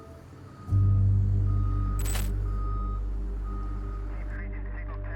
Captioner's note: alarm beeping